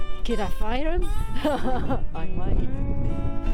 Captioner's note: laughs